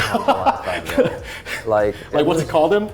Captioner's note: laughing